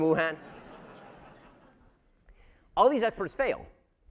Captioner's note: audience laughter